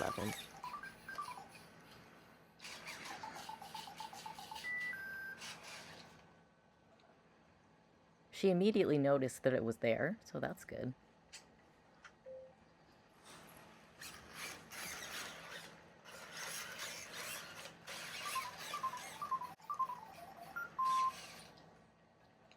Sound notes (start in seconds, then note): 0.6 ERS-111 cheerfully beeping in the background; 12.2 ERS-311 beeping softly; 13.9 gear noises; 18.1 ERS-111 beeping happily in background